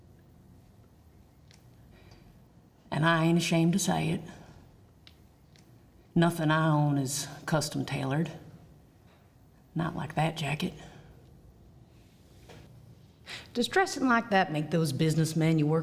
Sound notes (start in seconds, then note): none